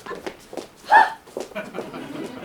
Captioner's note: Cecily and Gwendolen scoff; audience laughs